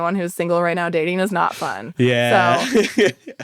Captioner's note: laughs